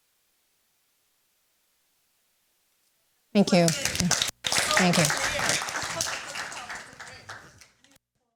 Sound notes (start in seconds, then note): 3.4 applause